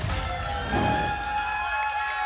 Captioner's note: applause and cheering; whoosh; applause and cheering cont